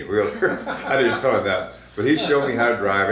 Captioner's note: laughs